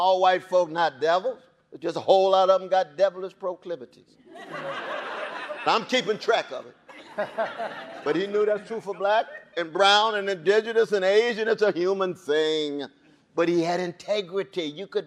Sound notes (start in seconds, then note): 4.3 audience laughing